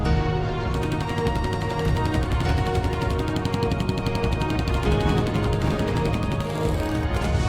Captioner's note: shoots sound